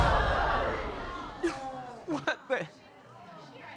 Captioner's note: audience exclaims; sobbing